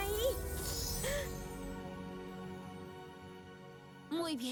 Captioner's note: chimes